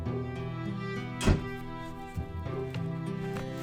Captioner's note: door shuts